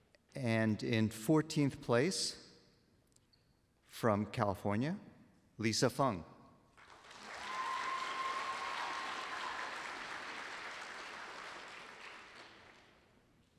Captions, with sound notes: And in 14th place, from California, Lisa Fung. [APPLAUSE]